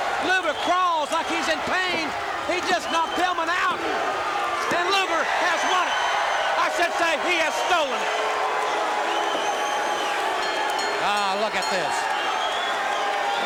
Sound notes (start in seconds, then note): 6.1 crowd cheering; 8.9 crowd cheering; 10.3 bell ringing